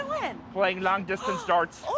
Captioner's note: gasps